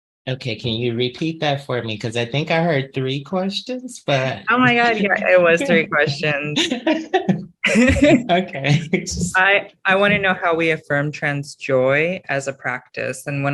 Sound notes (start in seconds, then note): 4.0 chuckles; 6.6 panelists chuckling; 7.1 laughs